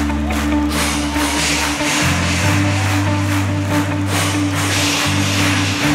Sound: crowd cheers; makes swoosh sounds

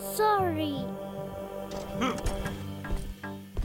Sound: grunts

